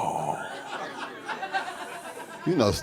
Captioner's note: audience laughing